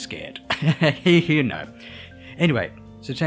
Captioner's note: chuckles